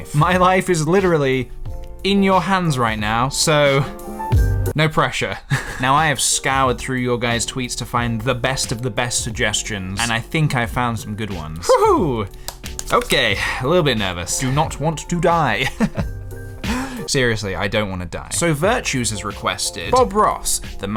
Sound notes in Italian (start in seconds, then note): 11.7 gridolino di eccitamento; 15.6 Risatina nervosa